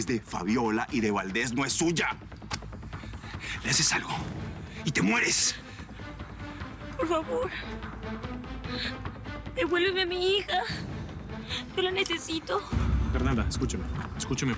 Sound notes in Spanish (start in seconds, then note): 6.8 Sollozos